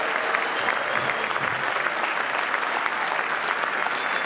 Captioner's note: applause